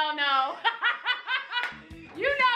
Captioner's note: laughs